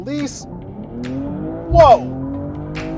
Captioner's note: engine revving